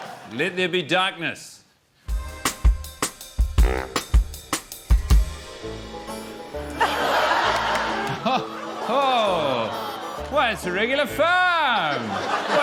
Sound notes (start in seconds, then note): 2.5 jazzy music; 5.7 whimsical music; 6.6 chuckles; 6.7 laughter